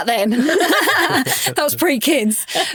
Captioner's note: hosts laughing